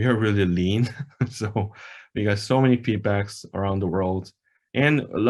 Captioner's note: laughs